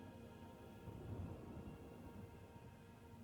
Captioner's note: none